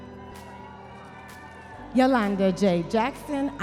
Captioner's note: audience members cheering